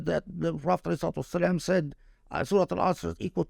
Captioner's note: speaking Arabic